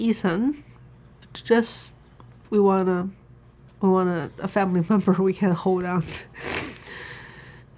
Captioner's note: sniffs